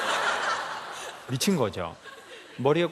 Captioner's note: laughs